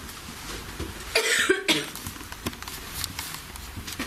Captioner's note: coughs